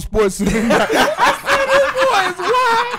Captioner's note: laughing